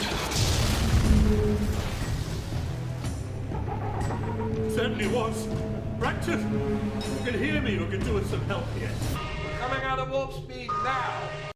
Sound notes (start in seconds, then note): 0.0 explosion rumbles; 3.2 ship chirps